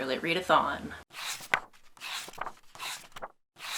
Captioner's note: pages turning